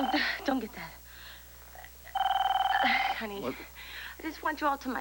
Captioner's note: telephone rings